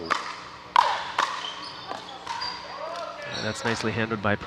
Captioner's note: ball bouncing